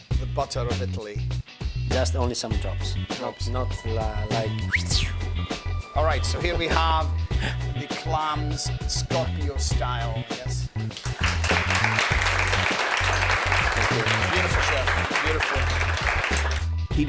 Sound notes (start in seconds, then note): 4.3 whistling; 10.8 applause